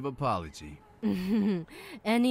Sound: smug laugh

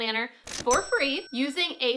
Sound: cash register dinging

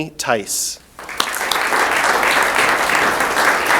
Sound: applause

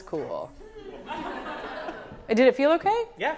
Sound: audience laughing

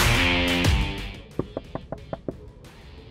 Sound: knocking

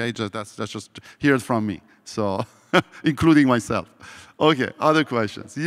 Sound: laughs

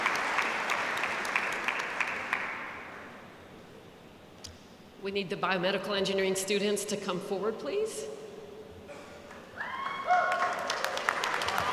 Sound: applause

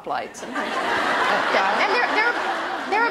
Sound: audience laughs loudly

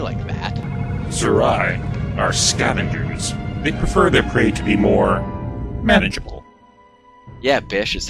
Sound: Bishop - Male Borg Voice

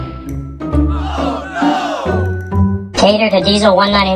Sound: voices; high-Pitched Voice

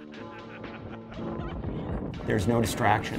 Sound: laughing

